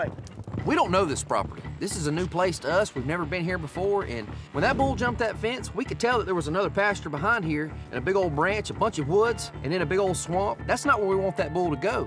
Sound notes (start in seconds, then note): none